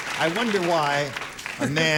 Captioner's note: applause